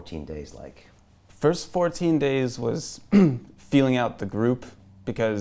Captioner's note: clears throat